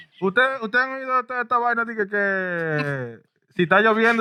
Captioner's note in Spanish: Hablando en idioma extranjero